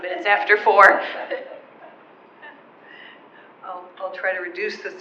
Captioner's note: all laughing